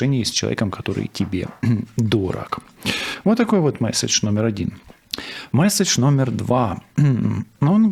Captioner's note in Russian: откашливается